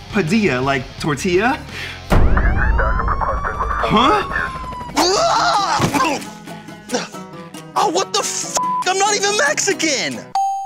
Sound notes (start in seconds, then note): 2.4 sirens blaring; 2.4 helicopter whirring; 3.5 police radio chattering; 4.9 screams; 5.0 bright music; 8.6 beep; 10.4 check mark dings